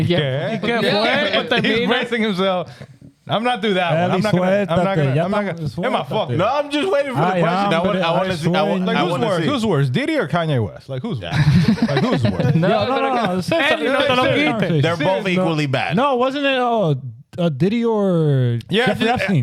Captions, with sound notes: You can't play? He's bracing himself. I'm not through that. (Speaking Spanish) Hey, my fuck. No, I'm just waiting for the question. I want to see. I want to see. Who's worse, Didi or Kanye West? Like who's worse? (Laughing) No, no, no, no. They're both equally bad. No, wasn't it Didi or Jeffrey Epstein?